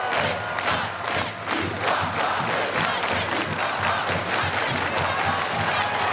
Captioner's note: crowd cheers and applauds